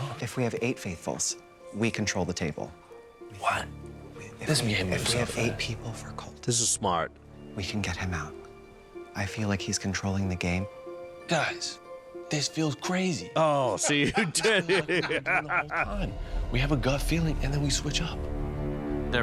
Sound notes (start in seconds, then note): 13.8 laughing